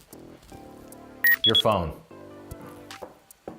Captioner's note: electronic beep